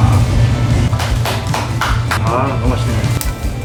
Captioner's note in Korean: 짝짝짝짝짝